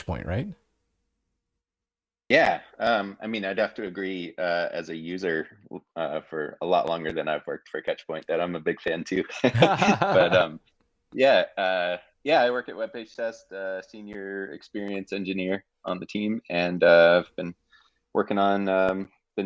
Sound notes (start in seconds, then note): 9.4 chuckling; 9.5 laughing